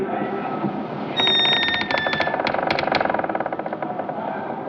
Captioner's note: door creaking open